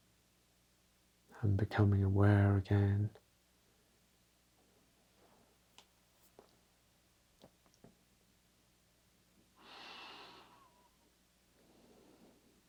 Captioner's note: breathing deeply